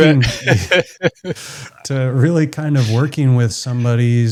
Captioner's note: both laughing